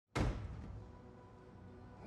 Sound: thuds

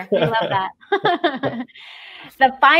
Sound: both chuckle

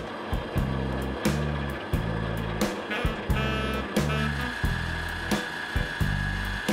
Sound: winching sounds

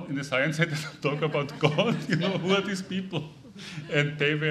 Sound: chuckling

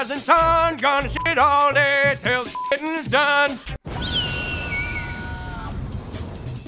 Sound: beeps

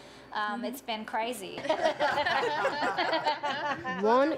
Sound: laughing

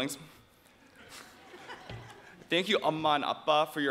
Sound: audience quietly chuckling

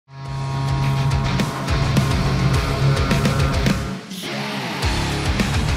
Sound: machining noises

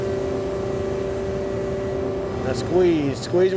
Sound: machine whirring

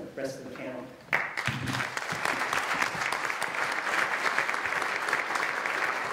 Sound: applause

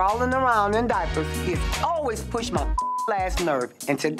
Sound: beep

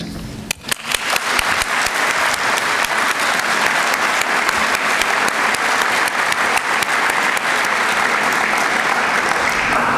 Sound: applause

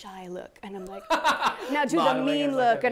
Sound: laughs

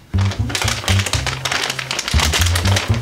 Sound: plastic rustles

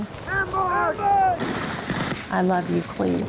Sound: soldiers yelling

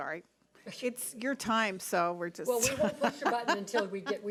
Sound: laughing

